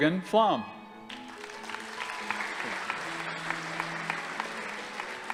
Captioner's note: audience applauding